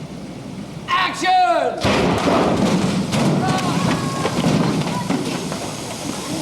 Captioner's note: explosion, set caves in